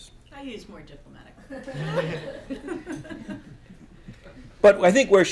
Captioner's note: laughter